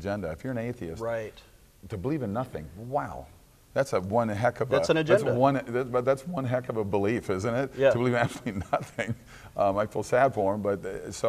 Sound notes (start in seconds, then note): 7.9 laughs